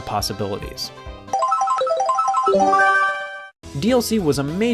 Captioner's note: Mario Kart item roulette sounds